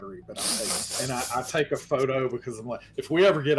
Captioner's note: snickering